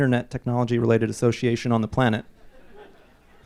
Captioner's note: laughs